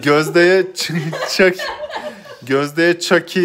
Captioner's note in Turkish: Gülüşmeler